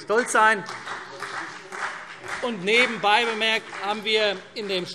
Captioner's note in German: Beifall CDU und BÜNDNIS 90/DIE GRÜNEN